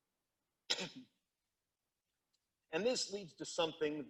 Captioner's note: speaker coughs